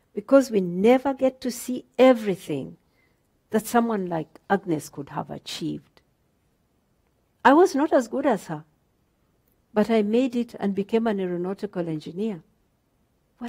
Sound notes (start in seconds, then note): none